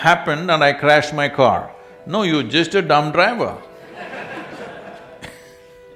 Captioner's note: laughter